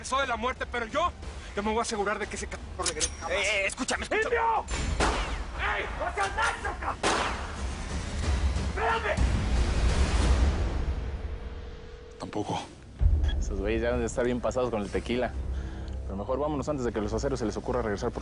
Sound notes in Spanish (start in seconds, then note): 4.7 Disparo; 11.2 La otra línea timbra; 11.8 Bip